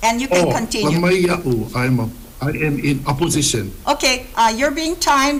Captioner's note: speaks Hawaiian